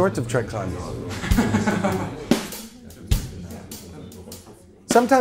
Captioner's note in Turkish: insanlar konuşur